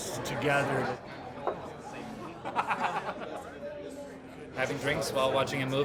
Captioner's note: man laughing